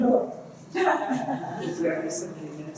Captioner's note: laughter